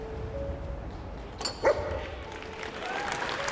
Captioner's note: happy bark